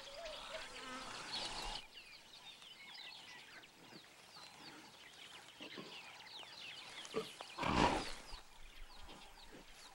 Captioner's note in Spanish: sonidos selváticos